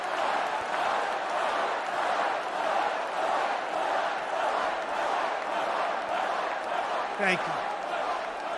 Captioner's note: audience chants "Fight"